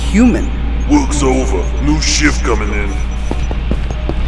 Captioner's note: intercom